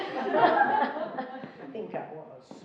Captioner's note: laughing